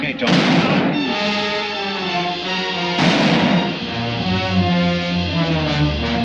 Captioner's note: suspenseful orchestral music; gunfire pops